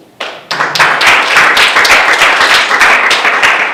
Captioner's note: audience applause